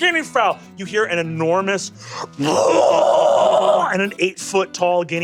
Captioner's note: screams